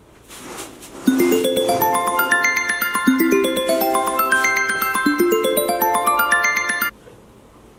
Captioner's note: alarm Ring